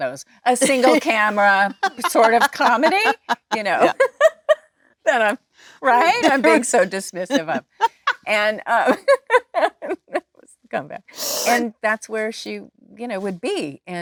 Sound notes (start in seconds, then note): 7.2 Jennifer and Lisa laughing